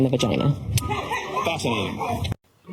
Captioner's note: laughing